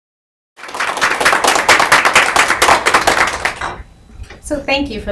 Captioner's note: audience applauds